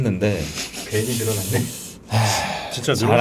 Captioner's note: laughing